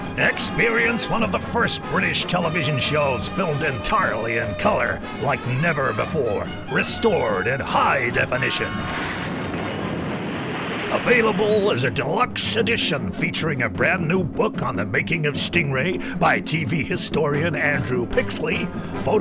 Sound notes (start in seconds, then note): 8.7 explosion blasts